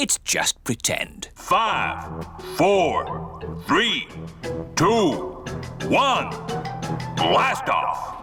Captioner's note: on speakers